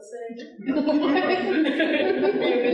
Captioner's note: audience laughing